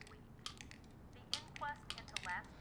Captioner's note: tablets clicking